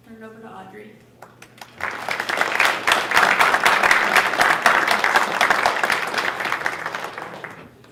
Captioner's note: applause